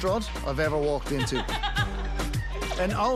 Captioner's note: laughs